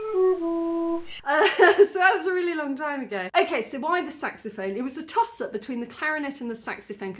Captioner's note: laughing